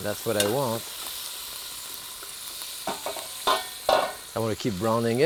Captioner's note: pan sizzling